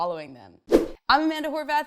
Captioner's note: fast whoosh